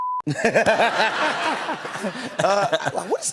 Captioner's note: laughter